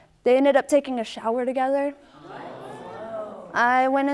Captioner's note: audience gasping